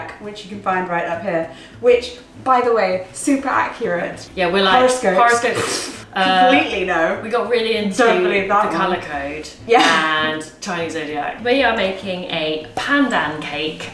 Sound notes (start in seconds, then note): 5.3 raspberries; 5.4 poofs